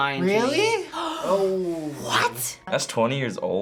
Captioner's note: gasps